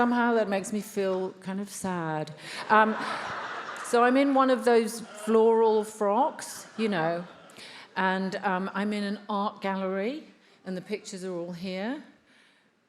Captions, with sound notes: Somehow that makes me feel kind of sad. [attendees laughs] So I'm in one of those floral frocks, you know, and I'm in an art gallery and the pictures are all here.